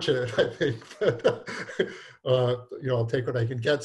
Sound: laughing

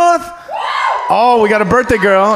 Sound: audience member screams

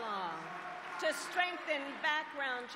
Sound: applause

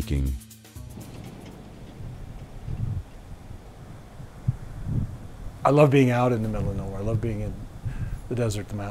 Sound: wind blows in the distance

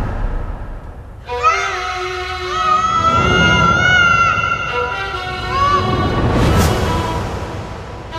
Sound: screaming

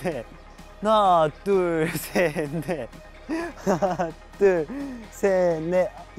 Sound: laughing at how he's working out so early in the morning

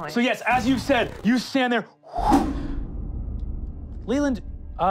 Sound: wooshing

